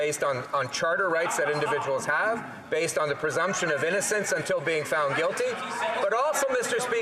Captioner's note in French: voix de l'interprète